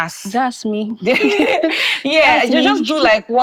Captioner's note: laughing